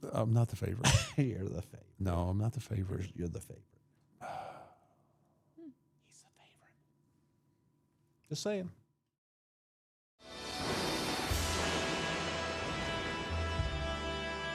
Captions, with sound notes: I'm not the favorite. You're the favorite. No, I'm not the favorite. You're the favorite. (Mark sighs) He's the favorite. Just saying.